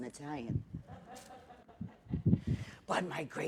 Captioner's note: laughter